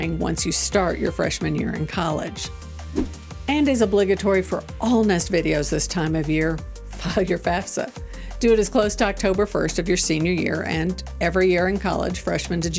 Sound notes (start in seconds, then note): 2.7 upbeat music; 2.9 transition whooshing